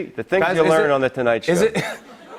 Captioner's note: laughter